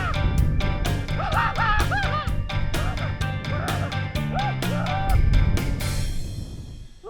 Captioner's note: screams